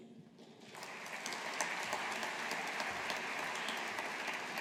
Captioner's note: audience applauding